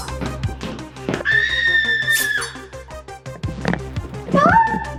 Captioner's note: speaker screaming